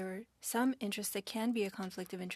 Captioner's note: speaking French